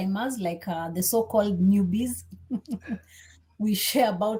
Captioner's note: chuckles